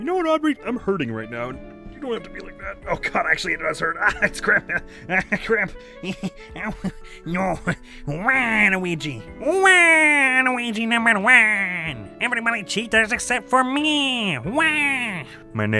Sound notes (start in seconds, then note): 9.3 Waluigi voice